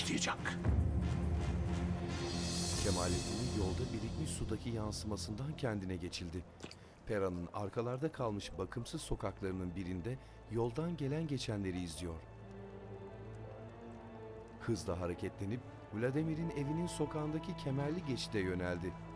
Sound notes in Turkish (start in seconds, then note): 0.0 Müzik - Gerilim; 7.5 Ayak sesi; 17.4 Müzik - Gerilim